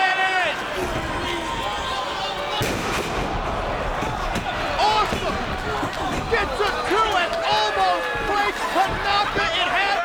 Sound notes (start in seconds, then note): 2.5 Tanaka slams